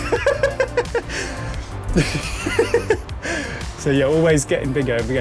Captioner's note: laughs